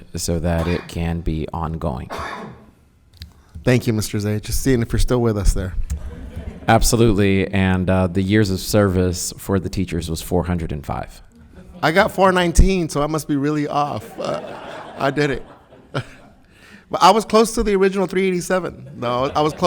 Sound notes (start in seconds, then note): 5.9 group laughs; 13.7 audience laughs